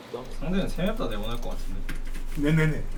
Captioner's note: BuZz